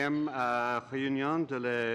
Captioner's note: speaking French